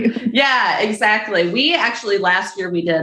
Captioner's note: chuckles